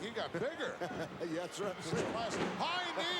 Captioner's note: laugh